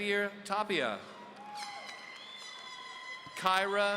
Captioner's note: audience applauding